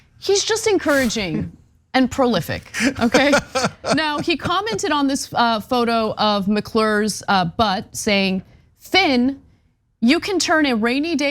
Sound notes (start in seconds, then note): 2.7 laugh